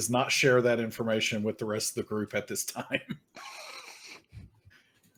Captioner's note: laughs